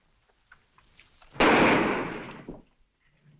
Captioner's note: gunshot